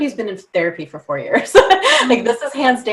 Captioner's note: laughs